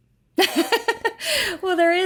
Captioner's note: laughs